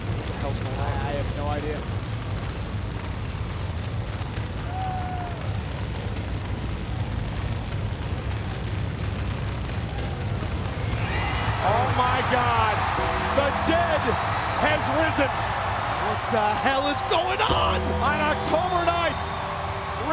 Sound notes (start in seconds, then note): 2.7 fire roaring; 11.6 crowd cheering